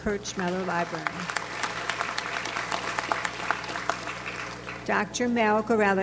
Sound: audience applauds

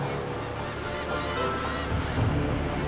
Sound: seagulls cawing

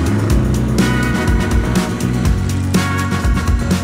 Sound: engine revs

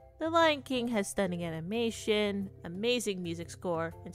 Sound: none

